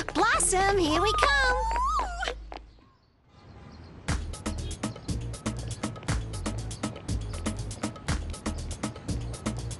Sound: squealing

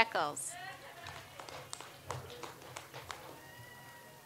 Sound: audience applauds

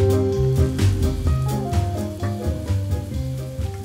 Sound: food sizzles

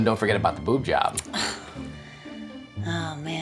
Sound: Julie groans

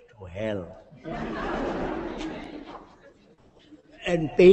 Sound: laughter

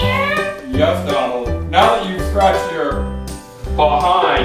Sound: voiceover

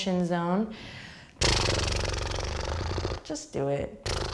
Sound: lips sputtering

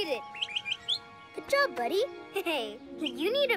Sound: chirps

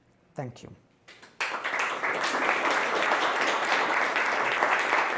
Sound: applause

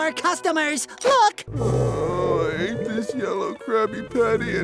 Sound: groaning

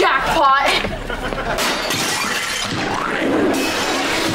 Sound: shattering

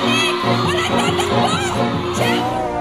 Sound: clamoring

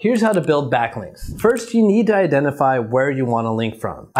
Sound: video clip whooshes

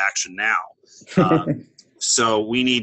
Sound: chuckle

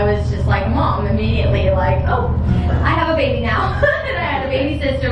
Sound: laughs

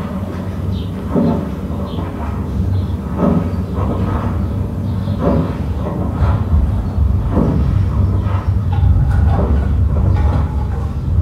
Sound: mechanical noises

